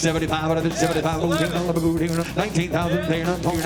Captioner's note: rapid auctioneering